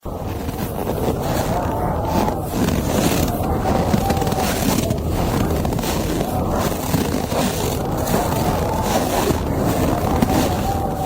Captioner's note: winter sounds